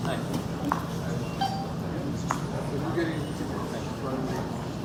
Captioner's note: people chattering